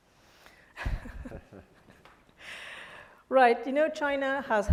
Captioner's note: laugh